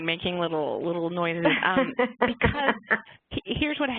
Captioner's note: laughter